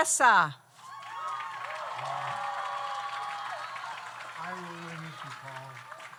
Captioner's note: audience cheers; audience applauds